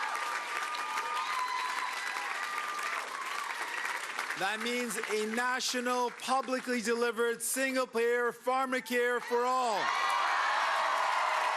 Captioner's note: cheering and Applause